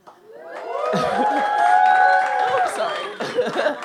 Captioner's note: audience cheers